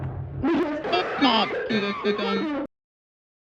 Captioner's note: turkey coughing in pain